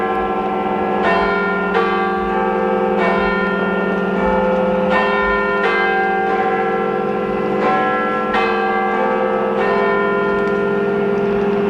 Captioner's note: Last bells of the 20th Century from the Big Ben Clock